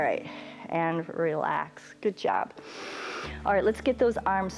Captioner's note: inhales